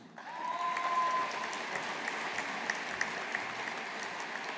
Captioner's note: audience applauding